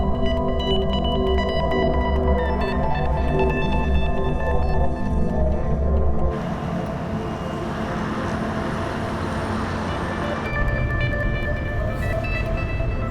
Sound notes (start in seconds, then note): none